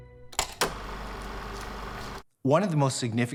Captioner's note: film roll spinning